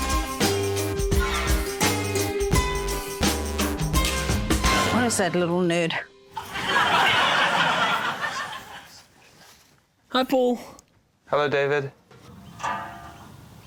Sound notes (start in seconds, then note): 0.0 inquisitive circus music; 6.3 laughter